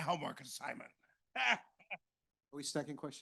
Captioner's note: laughs